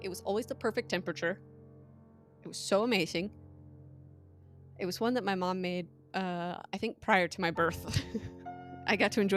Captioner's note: laughs